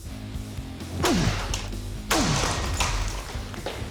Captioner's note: grunting and clattering